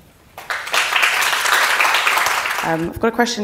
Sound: audience appluading

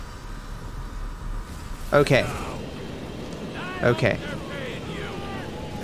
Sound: speaks gibberish

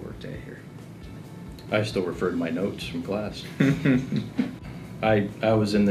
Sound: laughs

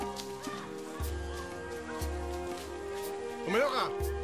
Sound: boys yelling

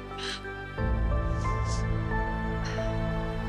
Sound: sniffling

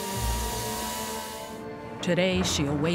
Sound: machine whirring

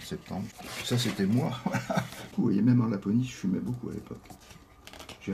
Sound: laughs

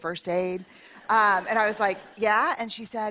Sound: laughter

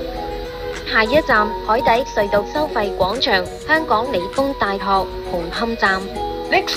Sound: Cantonese

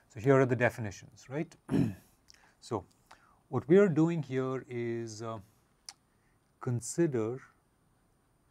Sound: cough

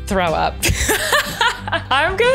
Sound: laughing

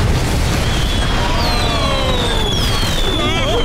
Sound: fireworks exploding; laughing

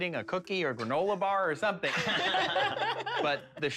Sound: laughter

